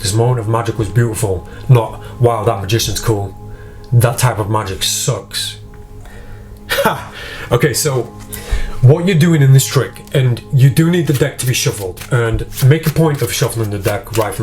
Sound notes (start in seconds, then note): 7.3 laughs; 11.0 cards scraping